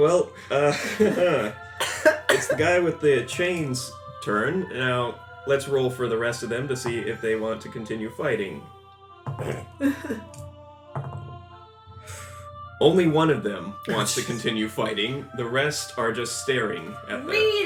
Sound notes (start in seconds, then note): 9.4 multiple dice rolls